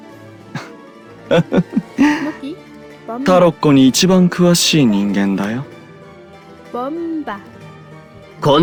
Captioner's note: laugh